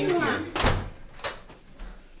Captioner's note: door locks